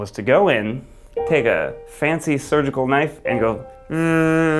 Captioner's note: hums